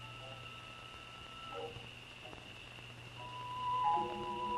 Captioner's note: insects chirping; stirring music